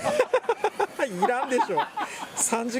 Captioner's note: laughs